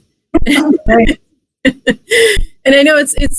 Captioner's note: laughs